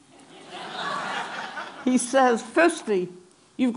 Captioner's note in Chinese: Laughter; 笑聲